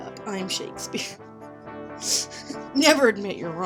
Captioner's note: laughs at self